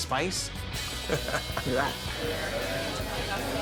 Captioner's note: laughs